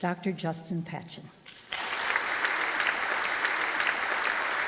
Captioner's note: audience applause